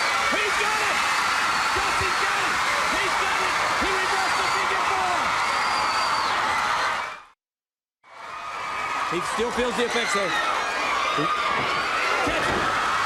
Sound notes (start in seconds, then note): 5.6 crowd cheering